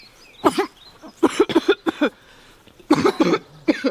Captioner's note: coughing